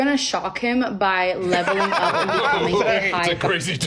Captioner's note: laughs